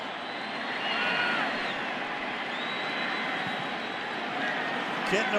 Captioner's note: pa announcement